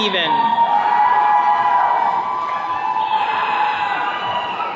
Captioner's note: attendees cheering